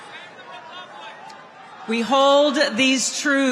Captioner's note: crowd Cheering